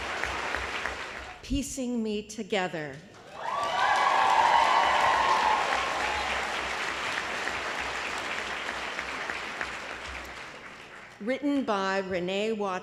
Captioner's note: applause